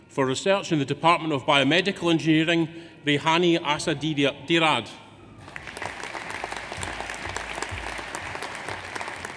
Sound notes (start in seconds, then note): 5.4 audience applauds